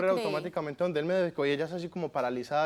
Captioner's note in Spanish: Hablan al unísono